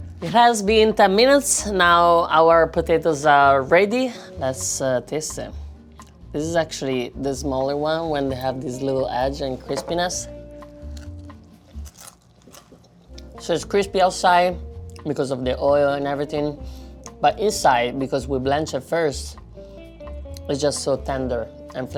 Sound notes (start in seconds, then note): 10.8 potato crunching